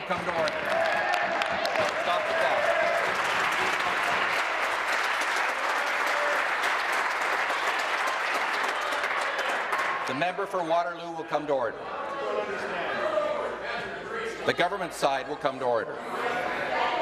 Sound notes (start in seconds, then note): 4.8 applause; 9.0 continued applause